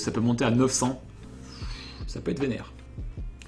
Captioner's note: inhale